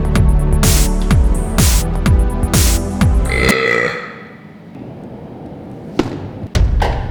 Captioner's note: burp